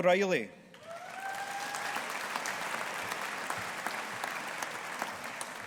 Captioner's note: audience applauding